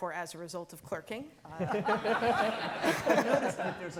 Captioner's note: all laughing